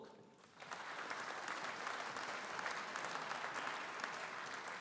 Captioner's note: audience applauding